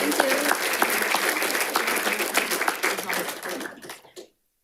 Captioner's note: audience applauding